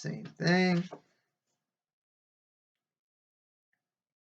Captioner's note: flapping of page turning